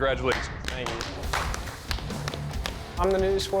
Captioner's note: applause